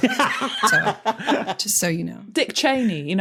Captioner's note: laughs uproariously